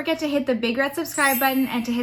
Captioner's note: notification bell ringing